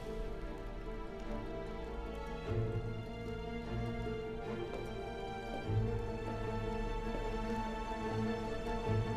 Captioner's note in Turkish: Alev sesi; Müzik - Gerilim